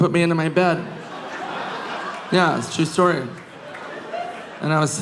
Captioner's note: audience laughing